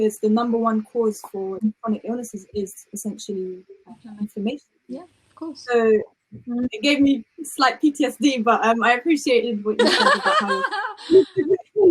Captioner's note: laughter